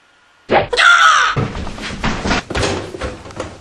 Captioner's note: screams